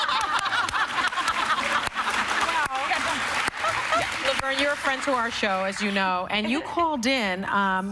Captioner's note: applause